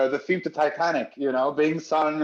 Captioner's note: laughs